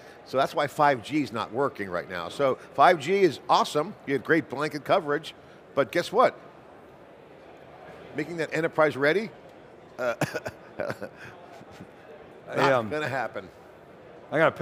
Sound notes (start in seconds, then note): 10.0 chuckles